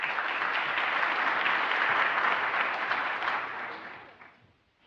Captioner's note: applause